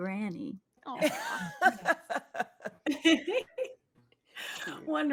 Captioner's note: players laughing